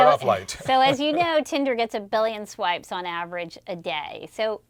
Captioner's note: laugh